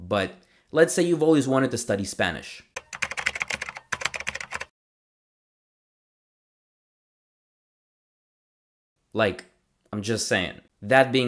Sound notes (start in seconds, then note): 2.7 typing